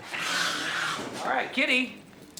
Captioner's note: hissing